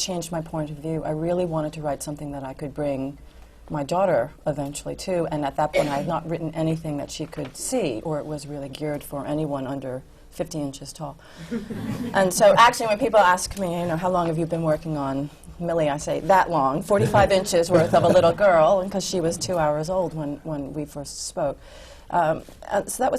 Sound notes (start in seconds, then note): 11.4 laughter